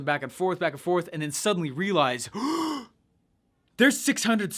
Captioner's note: gasps